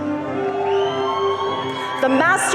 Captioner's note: audience cheering